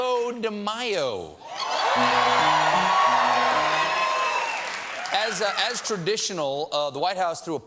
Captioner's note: cheers and applause